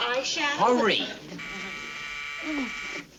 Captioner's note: buzzer rings